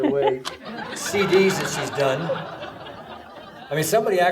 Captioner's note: audience laughing